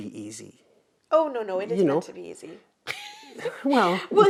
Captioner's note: laughs